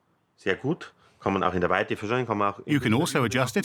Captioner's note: speaks in foreign language